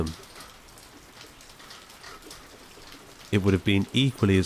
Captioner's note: rain heavily pattering; rhythmic metallic ticking